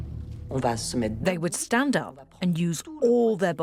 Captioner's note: voiceover